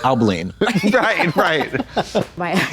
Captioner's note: Katya giggles